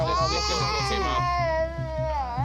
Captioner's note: baby crying